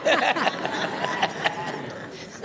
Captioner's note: laughter